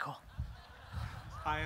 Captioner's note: audience laughter